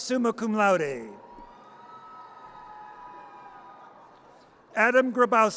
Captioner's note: audience cheers